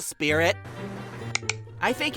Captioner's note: clicks